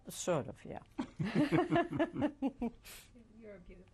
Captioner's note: laughter